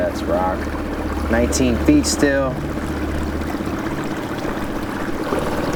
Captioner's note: water splashing